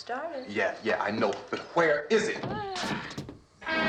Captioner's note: groaning